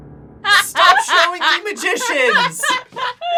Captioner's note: laughs